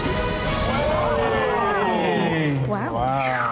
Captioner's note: all cheer